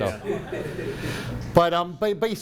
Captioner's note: laughing